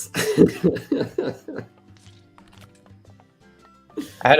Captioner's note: laughter